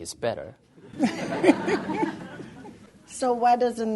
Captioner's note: audience/Questioner laughter